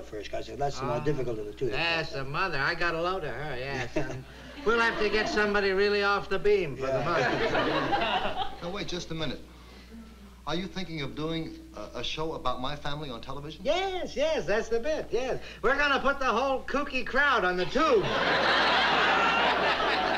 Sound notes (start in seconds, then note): 3.7 chuckles